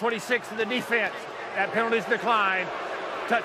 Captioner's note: booing